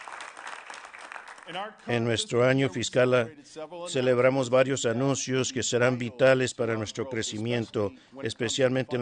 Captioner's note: applause